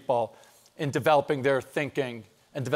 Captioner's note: none